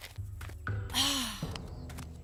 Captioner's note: Gwen Sighs